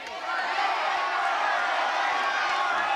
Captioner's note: shouting